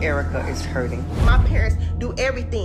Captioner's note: tense droning music; transition whooshes